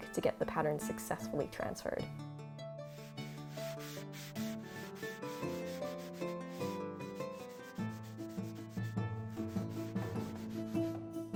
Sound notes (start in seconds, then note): 3.0 bright music; 3.0 charcoal scraping